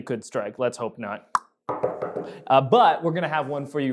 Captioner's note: knocks